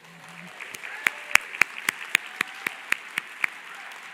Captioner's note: applause